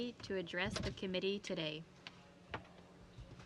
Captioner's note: speaking French